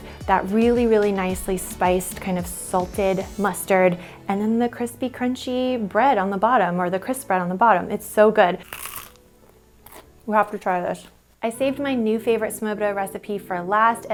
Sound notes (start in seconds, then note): 8.6 crispbread crunching